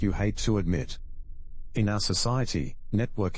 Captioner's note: electrical noise